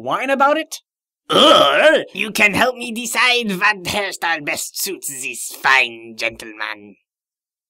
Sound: french accent

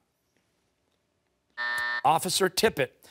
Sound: timer

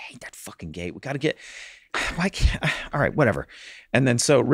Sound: sighs

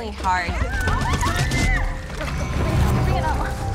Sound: screams

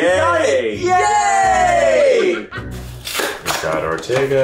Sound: all cheering

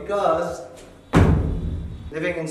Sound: stomps

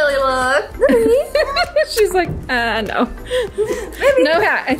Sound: laughing

